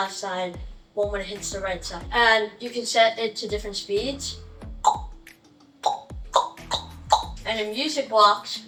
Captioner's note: makes faster click sounds